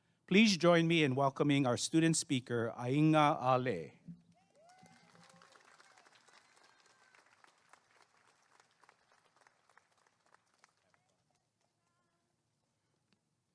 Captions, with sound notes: please join me in welcoming our student speaker Aiga Ale [applause and cheering]